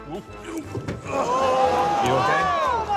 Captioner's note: grunts